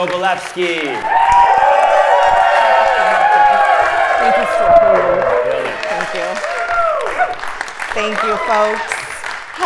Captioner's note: applause